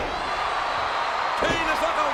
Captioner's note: audience cheers